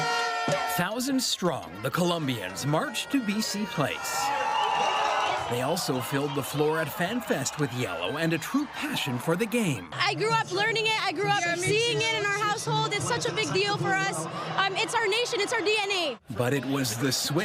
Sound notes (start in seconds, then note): 8.6 applause